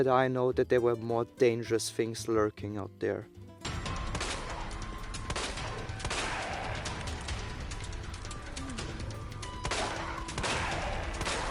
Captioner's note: dogs